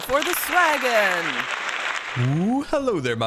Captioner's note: applause